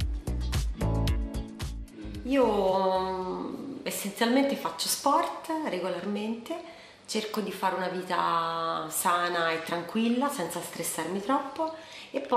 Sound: voiceover

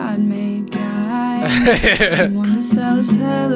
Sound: chuckles

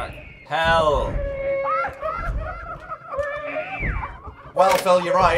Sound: baby crying, horrifying demonic laughter

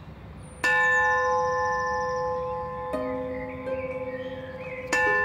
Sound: church bell ringing

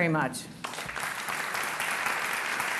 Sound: applause

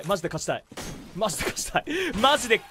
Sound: inhales

